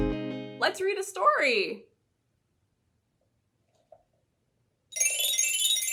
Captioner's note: bell sound